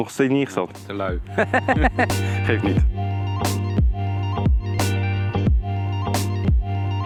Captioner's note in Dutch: gelach